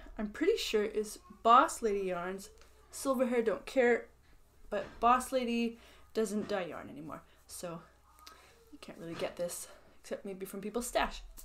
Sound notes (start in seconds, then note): none